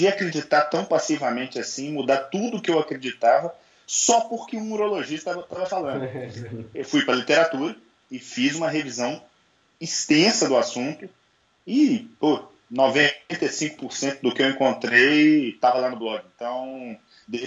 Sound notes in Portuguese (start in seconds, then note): 5.9 risos